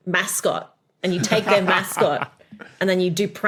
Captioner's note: laughs